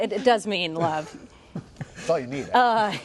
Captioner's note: laughter